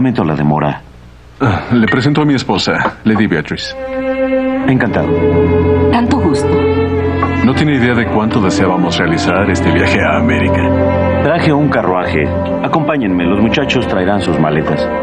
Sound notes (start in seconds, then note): none